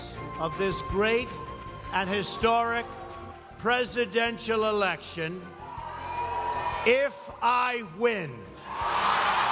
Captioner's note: cheers